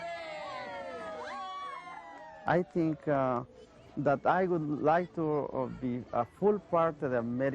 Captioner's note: cheers and applause